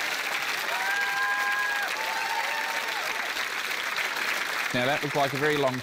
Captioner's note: laughter, applause; cheering, applause